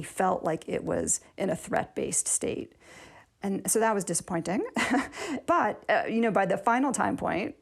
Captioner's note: laughter